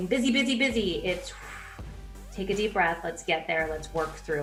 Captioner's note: exhales